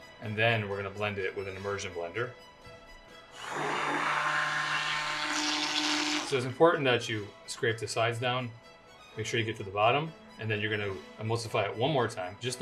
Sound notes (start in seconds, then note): 3.3 blender whirring